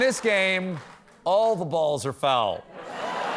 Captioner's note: laughter